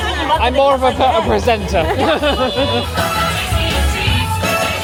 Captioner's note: laughing